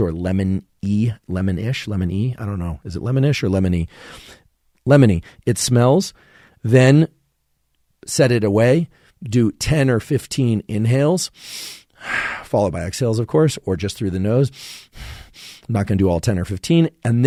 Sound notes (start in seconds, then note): 11.3 Andrew inhales and exhales; 14.5 Andrew breaths rapidly